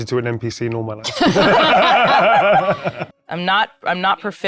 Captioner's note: players laughing